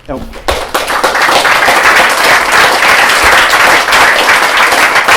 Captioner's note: applause